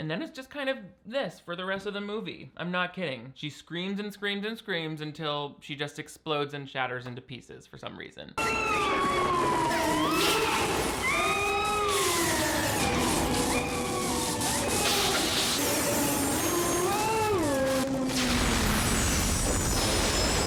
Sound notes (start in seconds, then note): 8.9 electricity crackling; 9.9 Laura screaming; 18.1 explosion booming